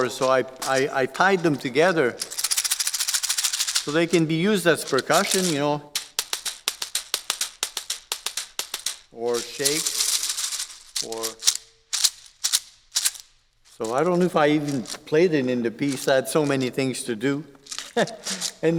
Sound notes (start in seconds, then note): 2.3 instrument rattles; 5.8 taps; 10.0 instrument rattles; 12.5 instrument shakes; 17.8 chuckles